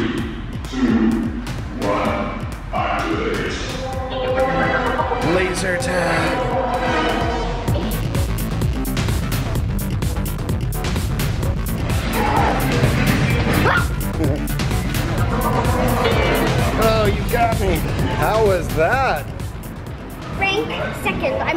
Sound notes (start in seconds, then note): 8.4 rhythmic music; 13.6 yelps